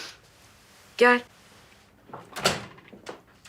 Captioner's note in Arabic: يفتح الباب